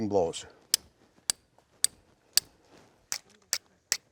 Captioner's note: scrapes